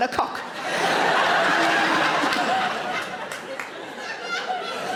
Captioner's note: audience laughing